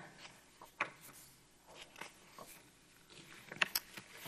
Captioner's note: paper rustles